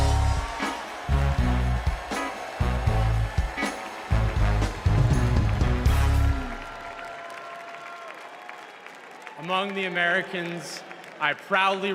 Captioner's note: cheers and applause